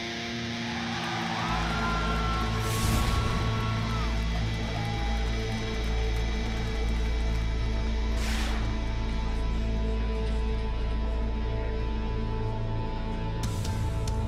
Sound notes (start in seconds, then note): 1.6 crowd cheering